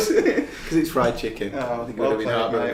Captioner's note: laughing